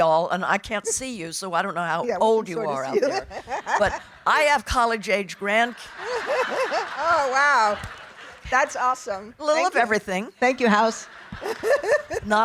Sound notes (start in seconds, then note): 5.9 laughing